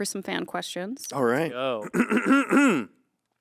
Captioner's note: clears throat